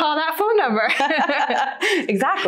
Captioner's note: laughs loudly